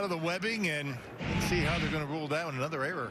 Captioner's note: none